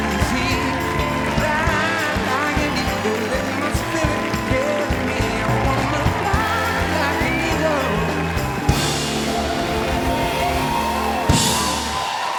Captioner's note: cheering and applause